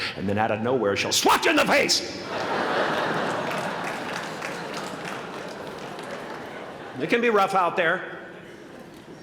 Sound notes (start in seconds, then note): 2.2 laughter